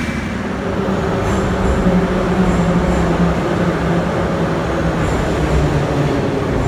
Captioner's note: arrival of train at the station